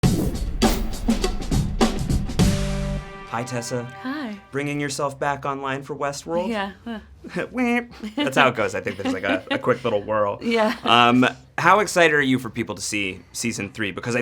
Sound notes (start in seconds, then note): 0.0 energetic percussion music; 7.5 imitates android beep; 7.9 Tessa laughs; 7.9 laughs